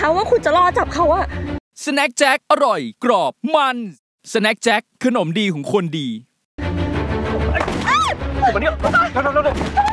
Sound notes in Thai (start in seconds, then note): 7.6 เสียงปืน